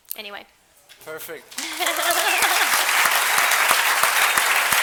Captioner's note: applause